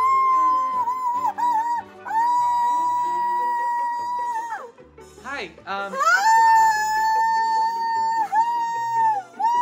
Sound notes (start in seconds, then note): 5.9 woman cheers